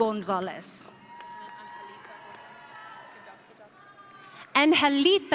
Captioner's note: audience cheering